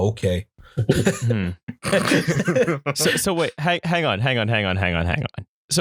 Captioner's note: laughter